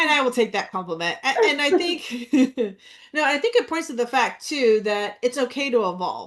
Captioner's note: laughs